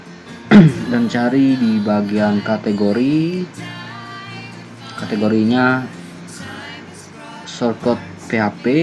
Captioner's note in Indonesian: berdehem